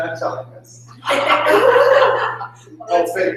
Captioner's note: laughter